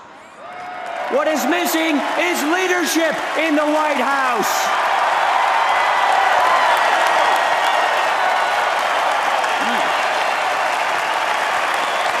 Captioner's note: applause